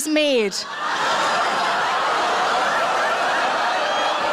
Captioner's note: audience laughs